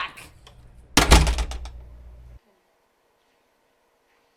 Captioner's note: door slamming